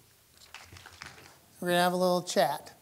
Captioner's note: applause